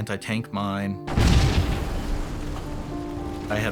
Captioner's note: explosion roars